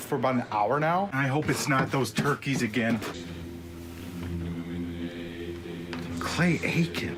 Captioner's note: demonic chanting